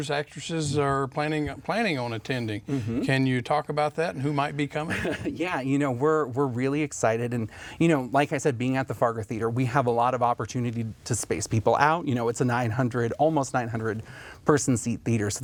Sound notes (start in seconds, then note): 4.8 chuckles